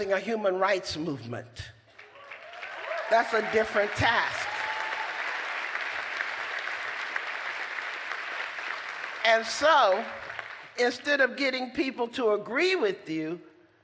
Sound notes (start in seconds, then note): 1.4 applause; 5.0 applause